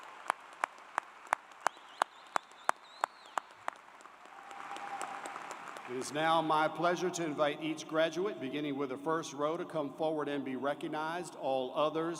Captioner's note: cheers and Applause